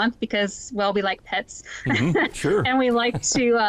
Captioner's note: laughs